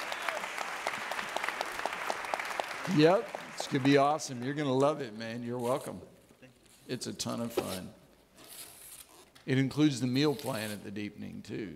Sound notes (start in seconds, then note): 0.0 audience clapping